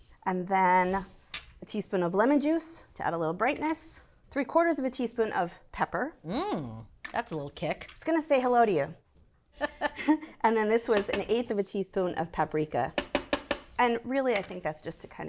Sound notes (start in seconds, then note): 9.5 laughs; 9.6 chuckles